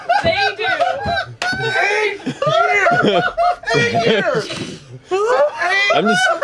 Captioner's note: laughter